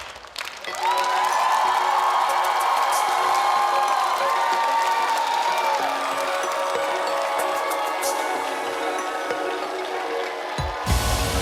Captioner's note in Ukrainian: оплески